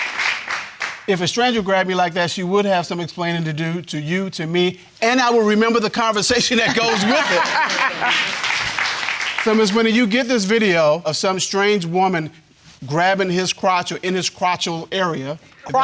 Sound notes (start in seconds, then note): 6.6 both laugh